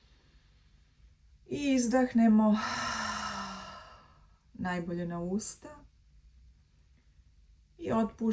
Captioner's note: sigh